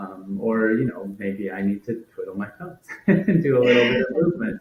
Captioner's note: laughs